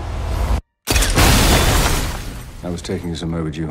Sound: explosion

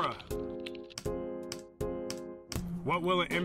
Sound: keyboard clicking

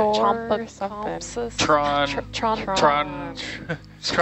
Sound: people mumbling

